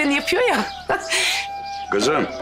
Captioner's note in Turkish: Gülme sesi